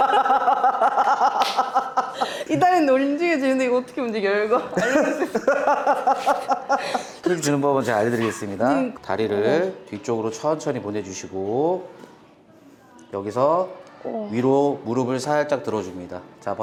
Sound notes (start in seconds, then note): 4.5 laughs